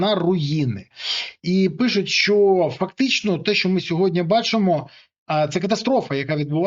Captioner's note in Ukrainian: сопіння